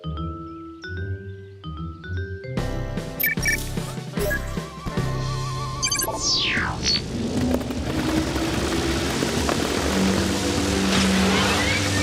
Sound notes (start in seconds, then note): 3.2 beeping; 7.2 whirring